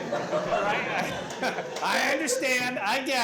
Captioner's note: laughter